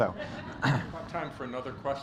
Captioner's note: laughter